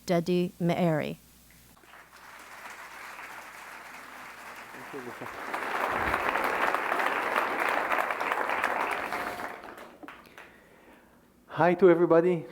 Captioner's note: applause